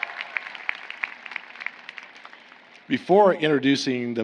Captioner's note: applause